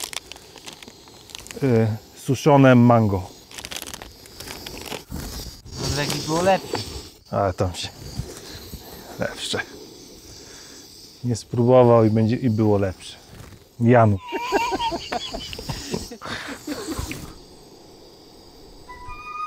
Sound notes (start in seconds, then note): 14.2 laugh